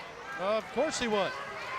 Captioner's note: crowd cheering